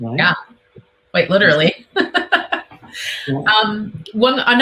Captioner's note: laughs